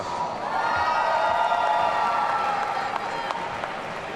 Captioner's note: audience cheering